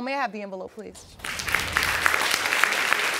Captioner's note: audience clapping